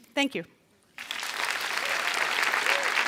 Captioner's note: เสียงปรบมือ